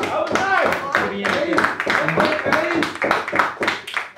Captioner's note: applause